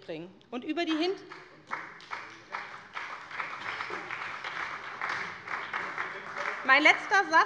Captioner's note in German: Beifall bei der SPD